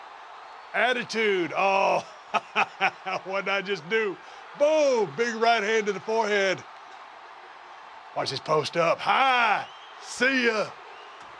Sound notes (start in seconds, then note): 0.0 applause; 2.3 laugh